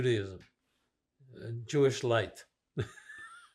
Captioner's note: laughing